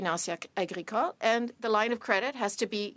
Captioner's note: speaking French